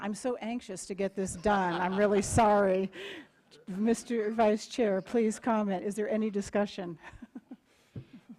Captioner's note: laughter